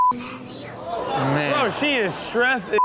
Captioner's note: audience gasps